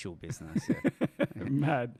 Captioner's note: laughs